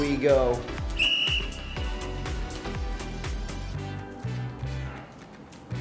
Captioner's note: whistle shrilling